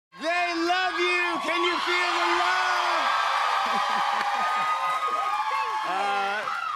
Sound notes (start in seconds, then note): 3.1 cheers and applause